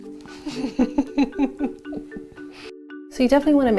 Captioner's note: laughing